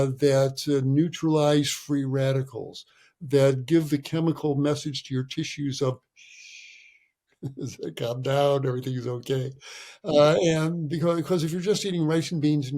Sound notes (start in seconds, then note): 6.2 shushing